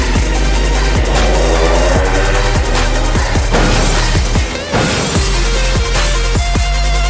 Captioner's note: 2-stroke sounds